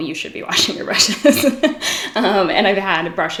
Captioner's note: laughs